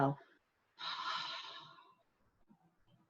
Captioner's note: exhaling